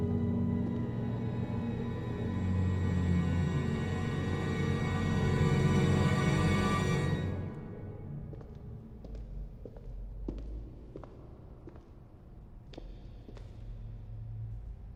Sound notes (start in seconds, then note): 0.0 foreboding eerie music intensifies; 8.8 footsteps tapping